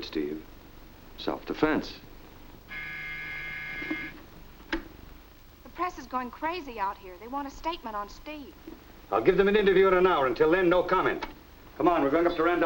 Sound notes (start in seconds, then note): 2.6 phone buzzes